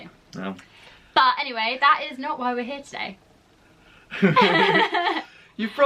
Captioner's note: laugh